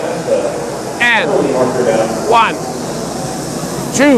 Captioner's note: buzzing increases as count increases